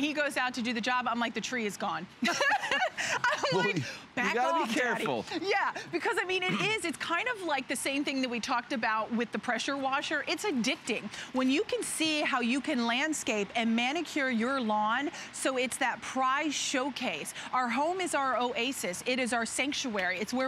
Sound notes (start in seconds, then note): 2.2 laughter